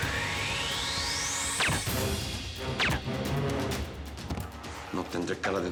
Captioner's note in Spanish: disparos con silenciador